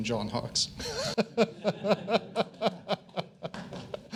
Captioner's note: attendees chuckling